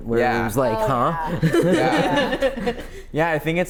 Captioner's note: laugh